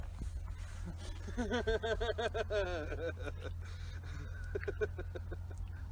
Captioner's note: laughs